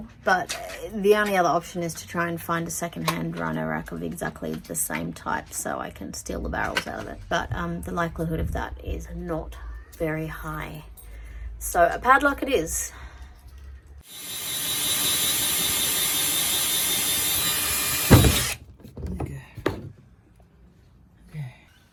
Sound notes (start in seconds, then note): 14.0 drill makes drilling noise; 17.9 drill thuds down into new hole